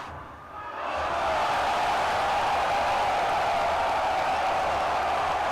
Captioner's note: crowd cheering